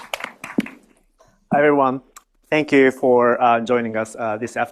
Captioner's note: applause